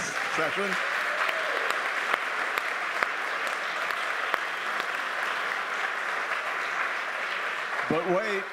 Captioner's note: applause